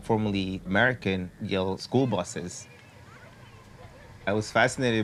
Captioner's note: none